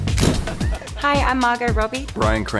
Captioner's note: camera shutter clicks